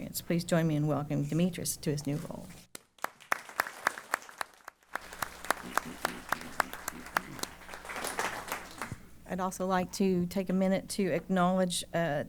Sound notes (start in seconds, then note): 2.7 applause